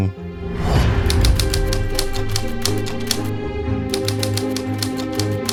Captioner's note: typewriter clicking